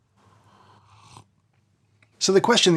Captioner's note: coffee slurping